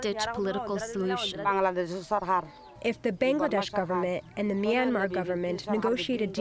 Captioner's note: through translator